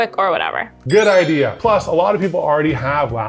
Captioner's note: bells chiming